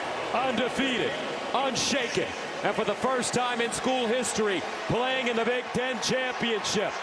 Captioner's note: cheers and applause